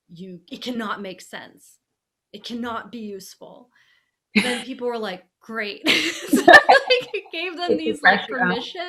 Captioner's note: laughing